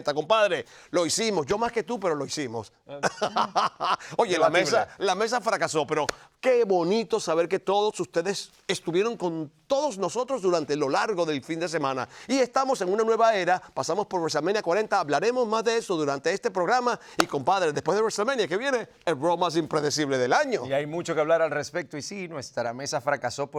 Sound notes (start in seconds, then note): 2.9 laugh